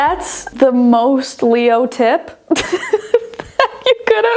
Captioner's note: laughs